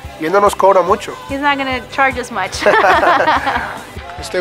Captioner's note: laughter